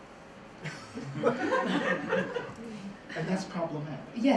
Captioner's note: laughter